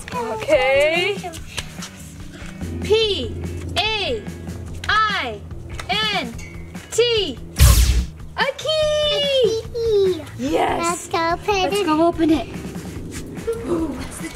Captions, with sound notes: That's good. - Okay, P-A-I-N-T (magical sound) A key! - A key! - Yes. - Lets go open it. - Lets go open it.